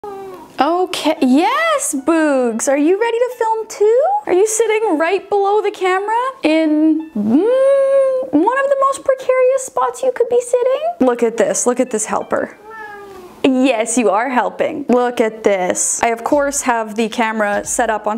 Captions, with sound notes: (cat meows) - Okay, yes Boogs. Are you ready to film too? Are you sitting right below the camera in one of the most precarious spots you could be sitting? Look at this, look at this helper. (cat meows) Yes, you are helping. Look at this. I, of course, have the camera set up